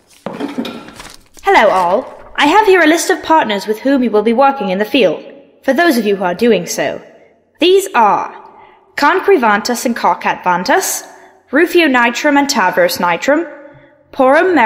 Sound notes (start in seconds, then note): 1.8 Shuffling as Calliope approaches the microphone